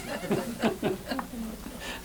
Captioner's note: laughter